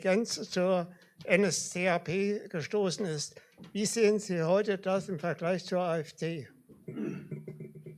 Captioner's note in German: räuspern